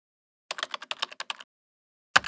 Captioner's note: typing